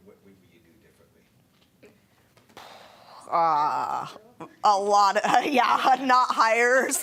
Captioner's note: laughing